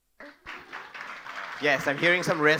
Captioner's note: audience applauding